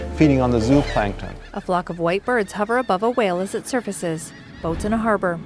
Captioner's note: seagulls cawing